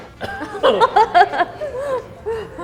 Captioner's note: laughs; coughs